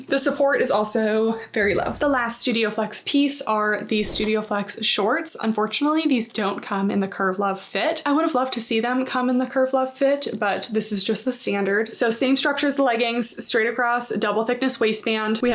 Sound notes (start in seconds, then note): 1.6 graphic whooshing; 4.0 text whooshing